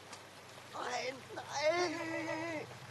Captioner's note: German